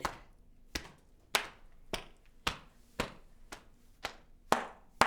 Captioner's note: hands clapping